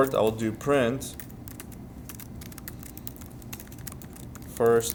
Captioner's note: sounds of Typing